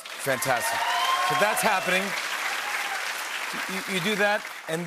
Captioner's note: cheers and applause